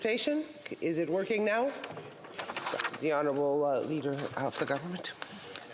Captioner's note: speaking French